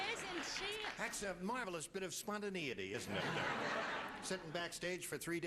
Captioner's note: laughter